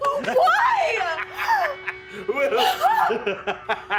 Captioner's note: laughing